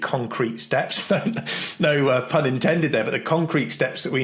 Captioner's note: chuckles